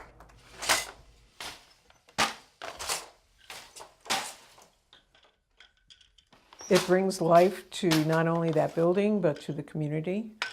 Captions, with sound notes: (loom clacking) It brings life to not only that building, but to the community,